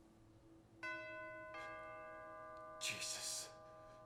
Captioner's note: doorbell chimes